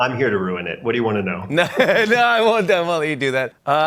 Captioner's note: chuckles